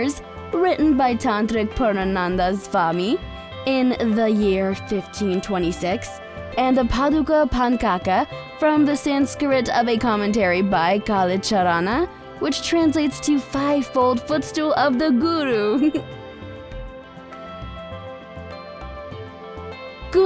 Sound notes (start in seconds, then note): 15.6 chuckles; 16.1 soft music